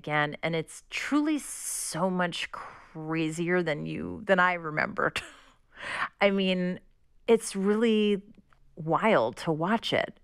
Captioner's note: laughter